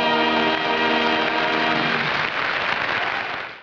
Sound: audience applauding

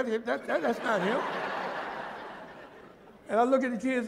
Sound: laughter

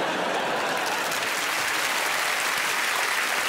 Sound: audience laughing and clapping

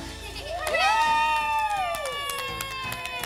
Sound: cheering and clapping

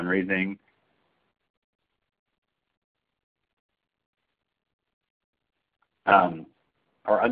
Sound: silence

